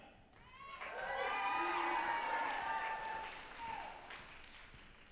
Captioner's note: group applauding and cheering